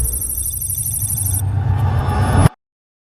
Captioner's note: cinematic Riser